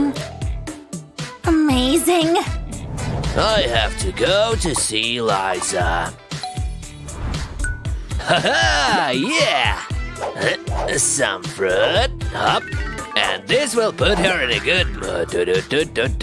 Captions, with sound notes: Yum-Yum-Yum Amazing... I have to go see Liza... Haha! Yeah! *groans* Some fruit... Hop! And this to put her in a good mood!